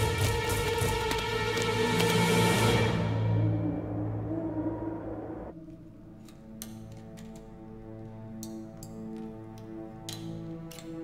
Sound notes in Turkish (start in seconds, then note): 2.9 Baykuş ötüyor; 5.2 Gerilim müziği